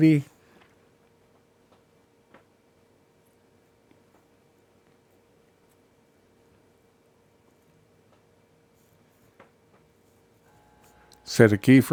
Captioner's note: silence